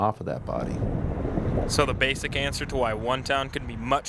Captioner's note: voiceover